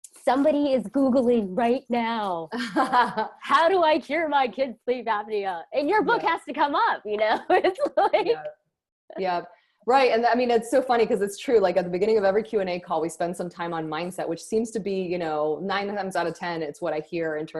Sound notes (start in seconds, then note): 7.1 giggling